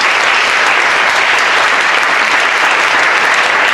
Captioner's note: audience applauds